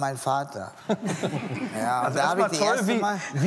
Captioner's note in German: Lachen